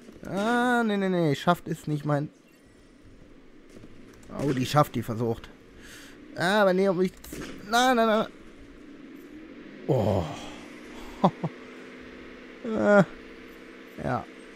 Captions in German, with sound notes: Ah, nein, nein, nein. "Schaft" ist nicht mein Fall. Oh, die Schaft versucht. Aber nicht auf mich zielen. Nein, nein, nein! *Seufzt erleichtert* *Lacht* Äh, ja.